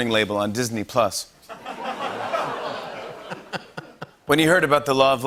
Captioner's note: laughter